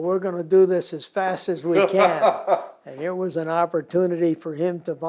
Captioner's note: laughter